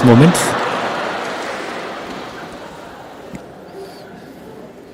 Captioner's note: laughter/Applause